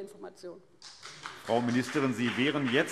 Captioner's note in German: Beifall BÜNDNIS 90/DIE GRÜNEN